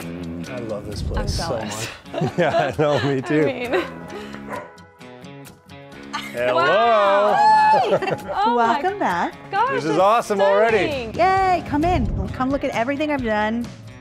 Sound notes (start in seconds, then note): 1.6 laugh; 4.4 dog barking